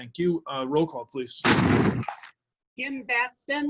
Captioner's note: door slams